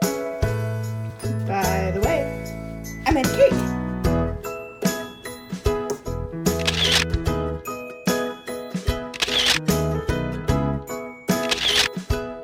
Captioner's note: camera clicks and continuing music